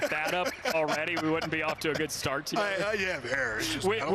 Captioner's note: laughter